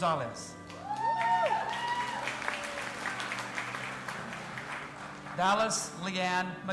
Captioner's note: audience applauding and cheering